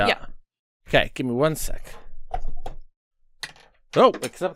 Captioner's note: faint dice clunks